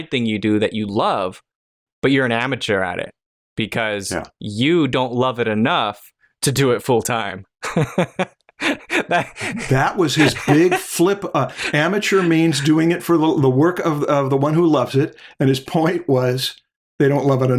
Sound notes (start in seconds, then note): 7.6 laughter